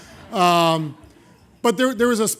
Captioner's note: laughter